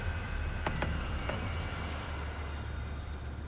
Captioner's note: engine revs